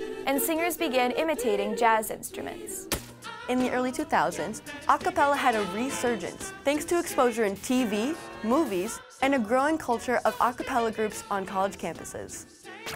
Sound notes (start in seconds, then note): 3.0 zap